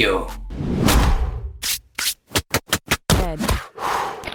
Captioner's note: air whooshing